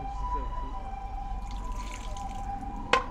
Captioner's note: water pours; deer scare tocks